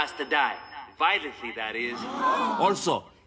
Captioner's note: crowd gasps